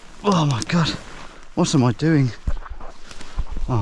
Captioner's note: branches crunching